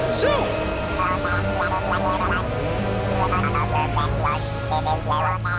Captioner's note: robotic speaking